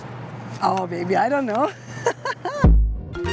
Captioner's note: laughs